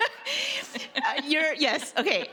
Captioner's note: laughing